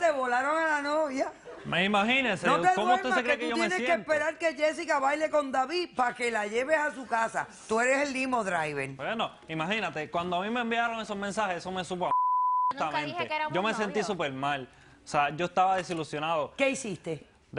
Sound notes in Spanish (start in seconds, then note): 12.1 Bip